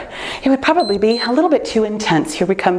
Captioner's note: timer beeps